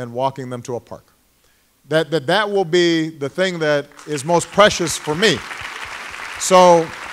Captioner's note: applause